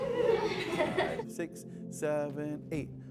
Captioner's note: students laughing